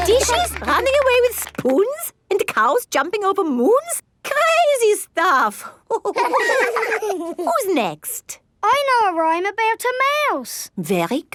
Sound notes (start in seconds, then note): 0.0 both laugh; 6.0 all laughing